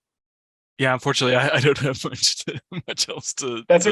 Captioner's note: chuckles